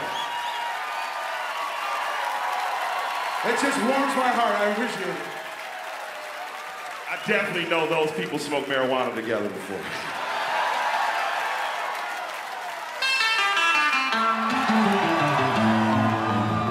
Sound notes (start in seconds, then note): 0.0 audience cheers; 13.0 upbeat hip hop music